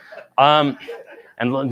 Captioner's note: laughter